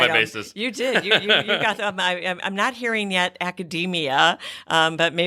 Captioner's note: laughter from both